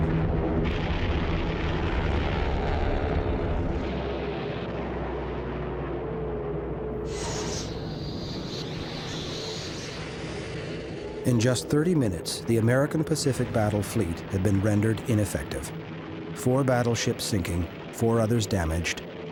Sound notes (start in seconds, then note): 7.0 torpedoes whizzing